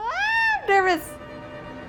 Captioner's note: screams